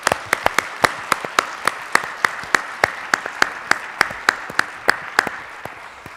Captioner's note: applause